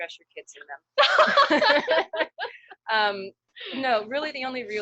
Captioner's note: laughter